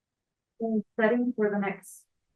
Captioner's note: speaks faintly